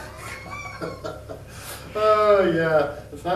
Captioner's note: laugh